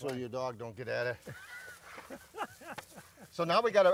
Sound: laughing

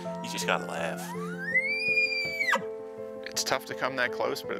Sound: elk bugle

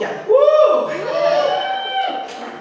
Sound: audience: Whoo!

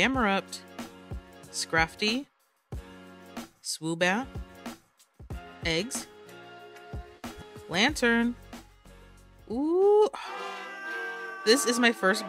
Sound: sigh

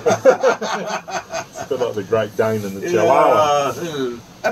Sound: laughs

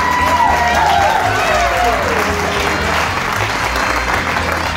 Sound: jazz; cheers

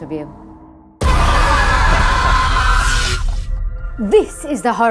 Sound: screaming

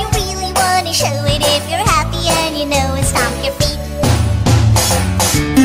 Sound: stomp stomp

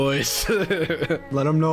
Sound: giggling

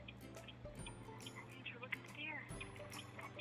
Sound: in a quite voice

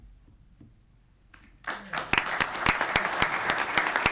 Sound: audience clapping

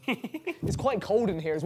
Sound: man chuckles

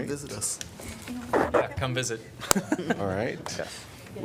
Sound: laughter

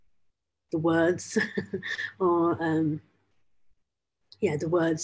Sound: chuckles

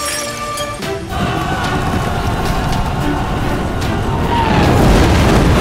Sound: battlefield Sound

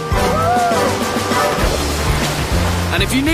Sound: water rushes

